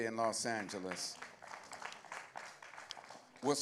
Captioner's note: applause